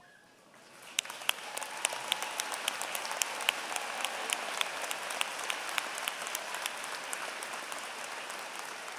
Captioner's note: applause